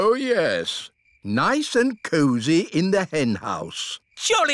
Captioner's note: none